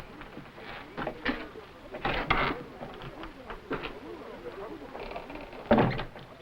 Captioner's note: servants chattering; door creaking; door slamming; servants chattering